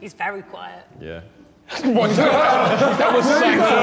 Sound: Sidemen laughing

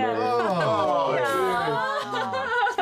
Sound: make sounds of disgust; laughs

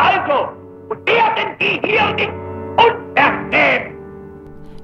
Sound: German spoken audio

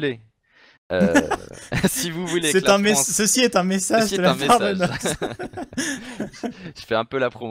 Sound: laughs

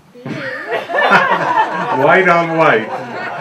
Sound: laughter

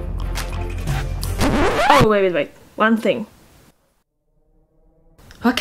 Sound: record scratches

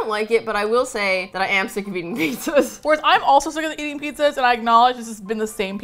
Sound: laughs

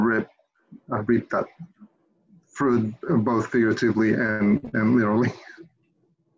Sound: laughs

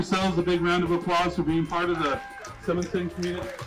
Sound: crowd applauding

